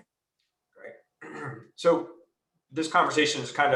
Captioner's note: clears throat